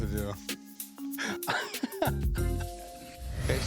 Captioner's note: laughter